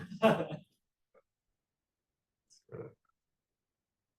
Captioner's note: student chuckling